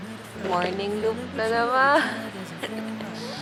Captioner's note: laugh